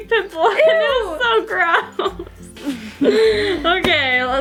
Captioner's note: laughing